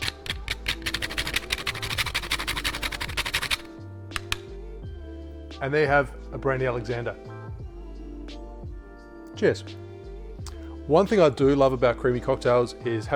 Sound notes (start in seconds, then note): 0.0 scraping; 4.2 tapping